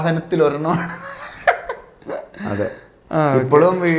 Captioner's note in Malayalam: പൊട്ടിച്ചിരി